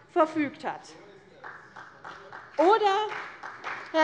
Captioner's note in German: Beifall CDU und vereinzelt BÜNDNIS 90/DIE GRÜNEN